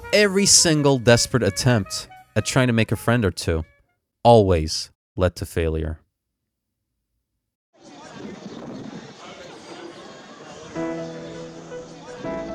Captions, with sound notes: Every single desparate attempt... at trying to make a friend or two... always... lead to failure. [Crowded street sound] [Uplifting piano music]